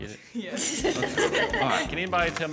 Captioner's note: children giggle